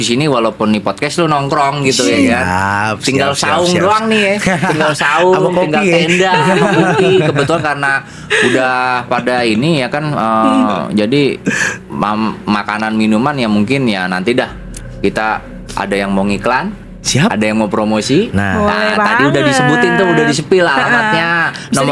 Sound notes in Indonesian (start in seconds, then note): 6.8 tertawa; 11.7 tertawa